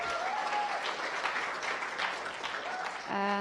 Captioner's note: applause